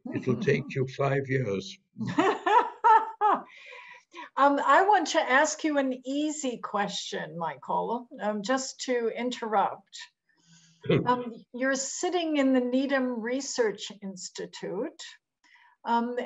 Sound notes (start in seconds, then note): 2.0 laughs